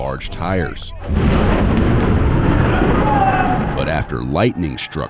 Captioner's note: thunder booms